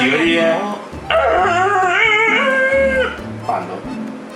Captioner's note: pretending Erhu sounds